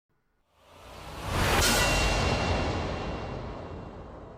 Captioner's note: air whooshing